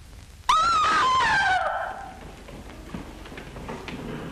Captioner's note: woman screaming